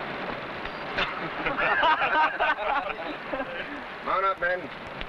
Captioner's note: men laughing